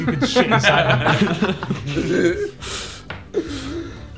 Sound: group laughing

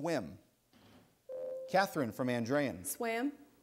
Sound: ding

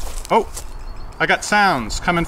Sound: faint beeping

